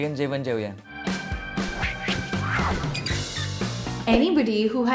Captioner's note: logo whooshing; metal creaking